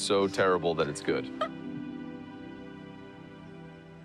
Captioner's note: laughing